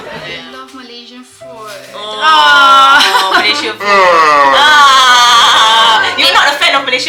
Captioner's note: laugh; yawn